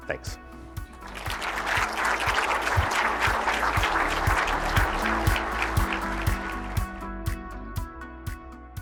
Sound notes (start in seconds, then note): 0.0 upbeat music; 1.0 audience applauds